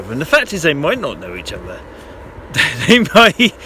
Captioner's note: laughs